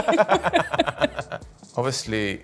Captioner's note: laughing